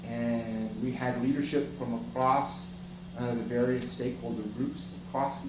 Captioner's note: none